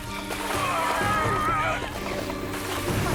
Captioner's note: grunting